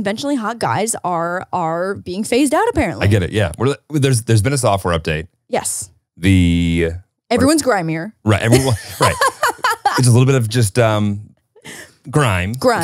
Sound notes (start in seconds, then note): 8.3 laughs